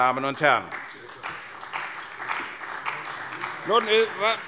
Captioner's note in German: Beifall bei der CDU